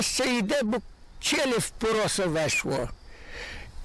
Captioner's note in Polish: po ukraińsku